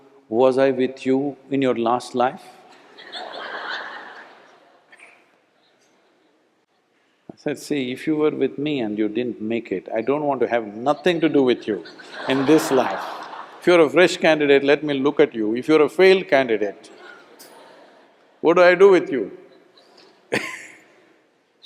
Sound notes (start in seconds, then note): 2.7 laughter; 11.6 laughter; 16.9 laughs; 20.4 laughs